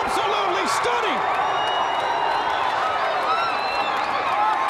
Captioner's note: crowd cheering